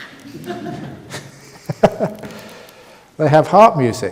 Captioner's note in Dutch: gelach